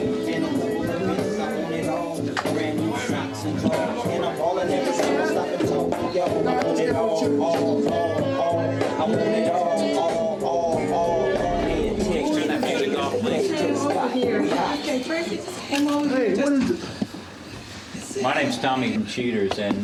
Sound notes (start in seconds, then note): 5.2 chatter